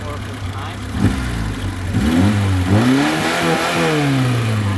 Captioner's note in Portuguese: vrum vrum